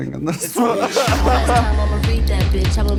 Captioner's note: laughs